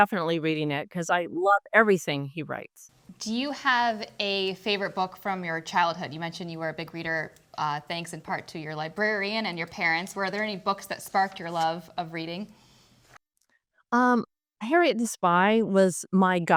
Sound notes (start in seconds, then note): none